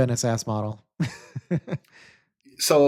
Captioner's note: laughs